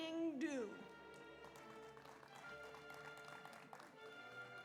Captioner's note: audience applauds